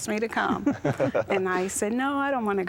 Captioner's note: laughter